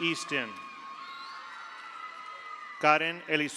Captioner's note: audience applauds; audience cheers